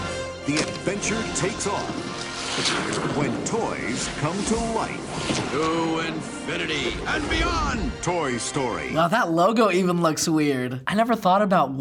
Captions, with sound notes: The adventure takes off when toys come to life. - (Buzz) To infinity and beyond! - (voice-over) Toy Story. - Wow, that logo even looks weird. I never thought about